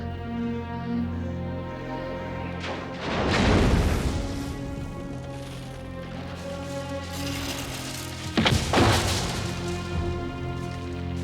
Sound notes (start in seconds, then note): 3.0 lighting crashing; 8.4 fire crackling